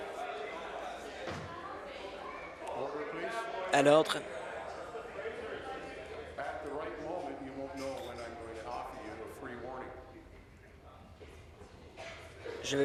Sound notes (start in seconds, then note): 4.8 conversation din